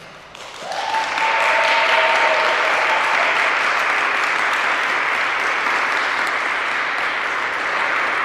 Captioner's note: applause